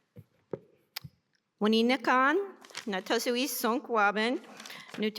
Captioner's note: non-english speech